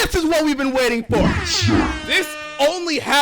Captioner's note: airhorns